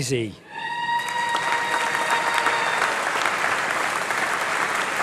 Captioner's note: applause